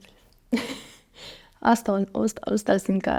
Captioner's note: laughs